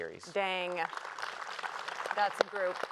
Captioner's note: applause